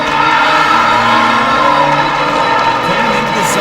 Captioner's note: cheering